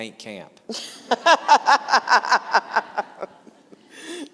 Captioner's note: laughing